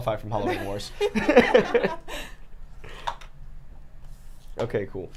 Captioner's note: laugh